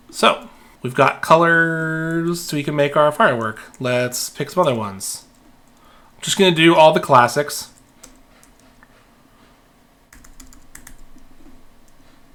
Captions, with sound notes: So we've got colors, so we can make our firework. Let's pick some other ones. I'm just gonna do all the classics. (keyboard clicking)